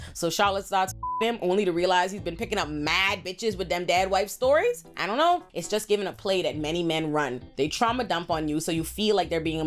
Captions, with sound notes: So Charlotte starts (beep) him, only to realize he's been picking up mad bitches with them dad wife stories. I don't know. It's just giving a play that many men run. They trauma dump on you, so you feel like they're being